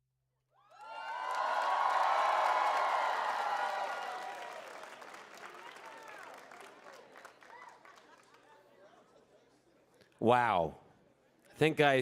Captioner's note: cheering